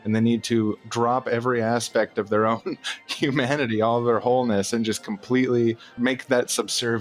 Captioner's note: giggles